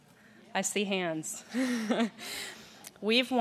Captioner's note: laughs